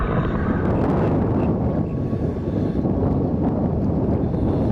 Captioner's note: wind gusts loudly